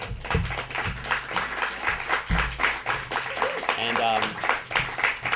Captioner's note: audience clapping